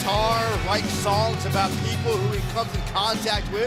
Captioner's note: crowd cheering